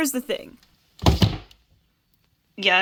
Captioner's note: thud